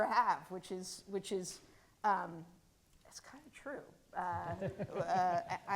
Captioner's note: audience laughing